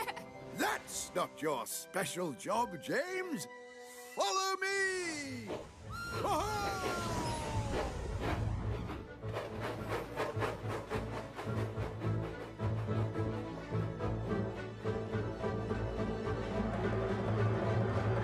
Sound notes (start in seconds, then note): 5.7 toot-Toot!